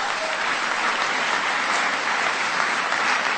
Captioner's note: applause